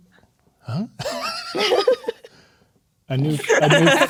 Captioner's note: players laughing